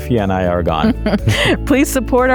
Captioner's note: both chuckling